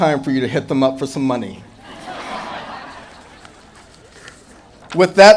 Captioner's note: audience laughing